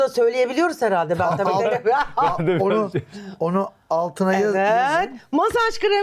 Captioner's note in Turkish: kahkaha